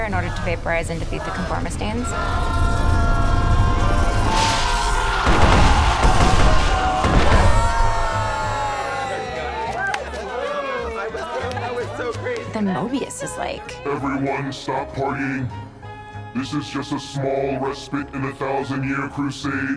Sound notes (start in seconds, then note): 2.2 lightning zaps; 3.7 conformistines clamor; 6.8 members cheering